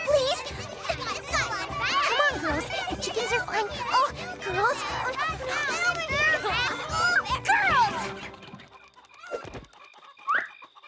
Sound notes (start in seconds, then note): 0.2 laughter, indistinct shouting; 5.9 shouting, clucking continues; 8.6 shouting stops